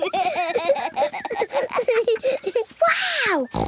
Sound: laughter

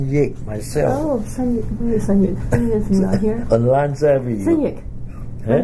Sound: coughs

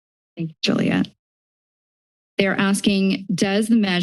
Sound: silence

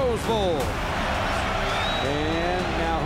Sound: crowd cheers

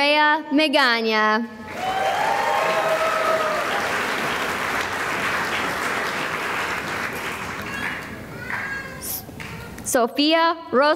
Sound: cheering and applause

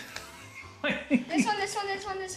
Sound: laughing

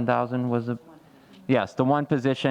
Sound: faintly speaking

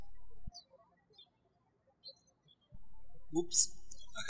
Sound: birds chirping

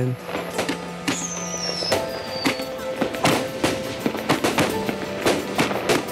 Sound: gentle music; fireworks crackling

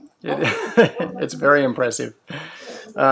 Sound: laughs

